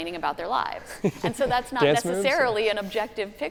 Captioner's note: laughing